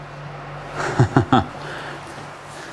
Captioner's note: he laughs softly